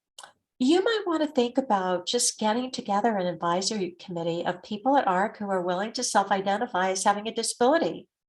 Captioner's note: none